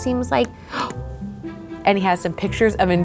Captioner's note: gasps